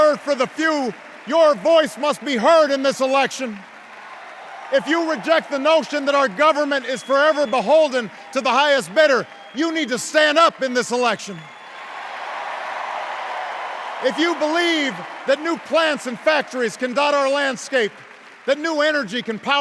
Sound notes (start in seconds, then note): 5.0 enduring cheers and applause; 11.4 cheers and applause